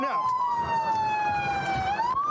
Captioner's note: sirens blaring